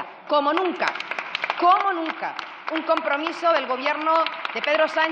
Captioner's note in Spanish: Aplausos